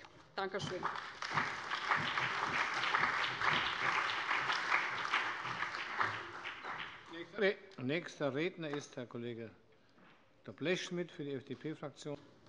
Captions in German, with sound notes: - Danke schön. [Beifall bei der CDU, der SPD und dem BÜNDNIS 90/DIE GRÜNEN] Nächster Redner ist der Kollege Dr. Blechschmidt für die FDP-Fraktion.